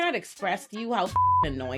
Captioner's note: beep